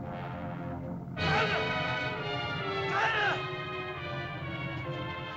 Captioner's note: dramatic music; Akhoba shouts; dramatic music